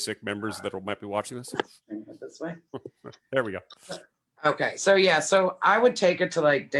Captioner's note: laughs